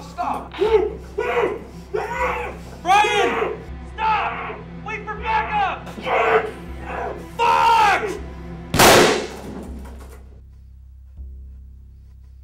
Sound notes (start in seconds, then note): 0.0 muffled crying out; 8.7 gun firing